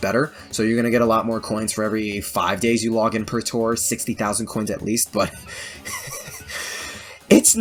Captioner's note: laughs